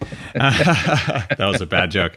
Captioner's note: both laugh